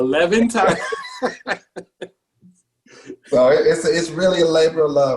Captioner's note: laughs